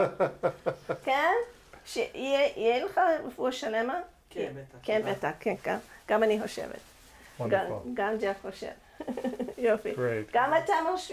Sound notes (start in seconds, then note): 0.0 laughing; 0.2 speaks in foreign language; 3.8 boy speaks in foreign language; 5.2 speaks in foreign language; 10.8 speaks in foreign language